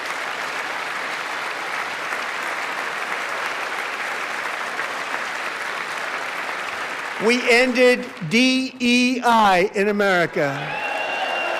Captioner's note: applause